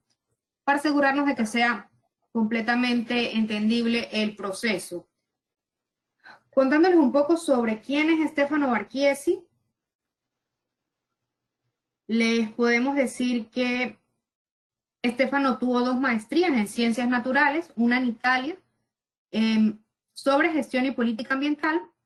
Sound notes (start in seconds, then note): 9.5 silence